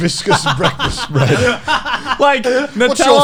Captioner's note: men laugh